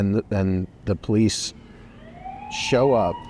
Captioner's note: police siren